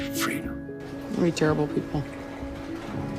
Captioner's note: voiceover